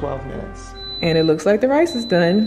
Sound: beep

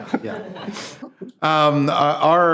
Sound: people laughing

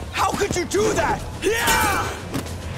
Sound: grunting

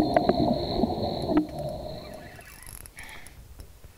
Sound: underwater gurgling; reel cranking

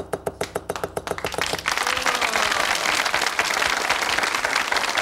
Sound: audience clapping

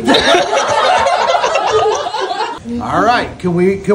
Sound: family and Santa laughing

